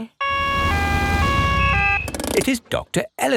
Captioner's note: siren wails